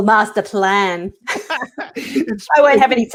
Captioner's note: both laugh